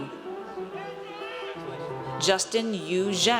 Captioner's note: audience cheers